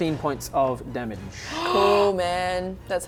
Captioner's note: gasp